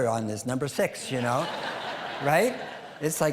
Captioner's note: audience laughing